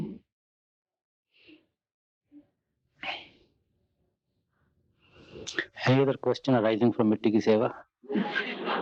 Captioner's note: laughter